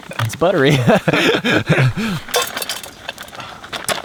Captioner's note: both laugh